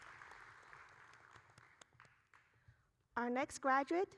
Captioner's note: applauding